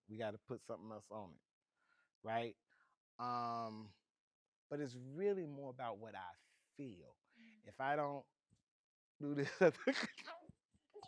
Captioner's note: dances and laughs